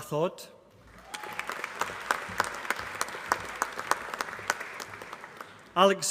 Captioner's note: applause